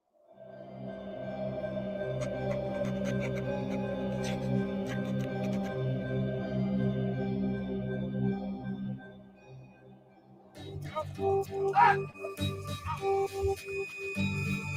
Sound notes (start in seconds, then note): 0.2 wind blowing; 1.0 ominous music; 2.4 pen writing